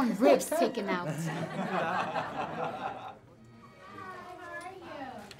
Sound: everyone laughing

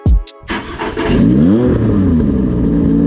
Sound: engine Starts; engine Revving

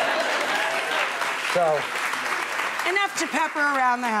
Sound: audience cheering

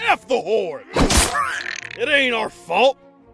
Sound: fishy squish sound

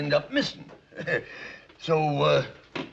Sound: chuckles

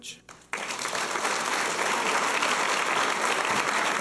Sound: applause

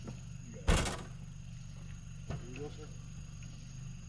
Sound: door shutting

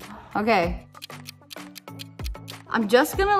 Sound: clock ticks

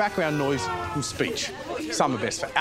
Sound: car horn wails

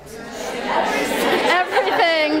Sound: attendees respond collectively

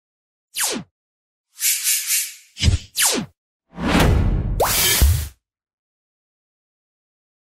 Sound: logo Sound Effects

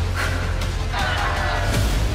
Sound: cheering

